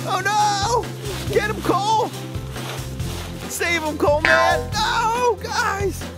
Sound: coil springs

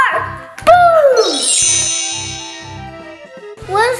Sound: magic wand

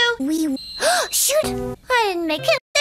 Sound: gasp

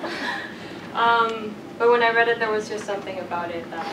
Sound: laugh

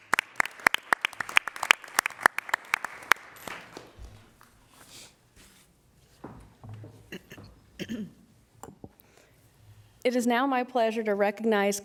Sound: applause

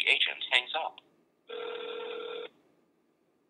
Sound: phone ring

